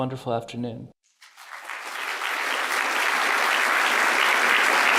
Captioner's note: applause